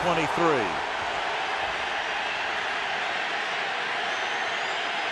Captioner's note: crowd cheering